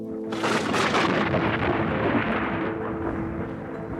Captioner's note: thunder cracking